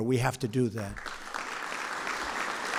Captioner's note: applause